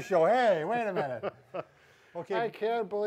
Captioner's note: laughs